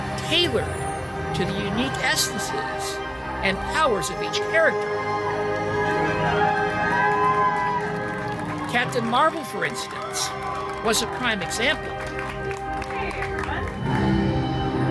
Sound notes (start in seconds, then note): 5.4 guests cheering and applauding